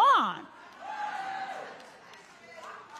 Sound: audience applauding

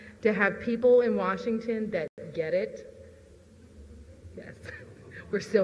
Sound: chuckles

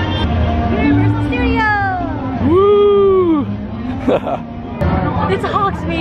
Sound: man cheers

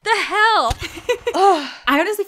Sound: cannon firing; laughing

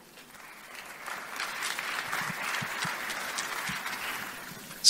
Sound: audience applauds

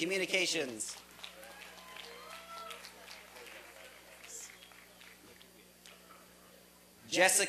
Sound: applause and cheering

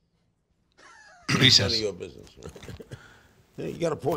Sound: laughs

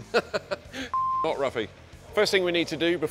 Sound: laughs; beep

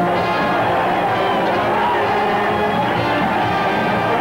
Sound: crowd cheering

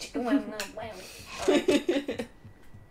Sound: laughter

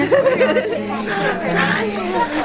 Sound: laughter

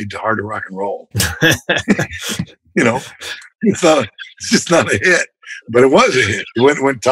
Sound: laughter

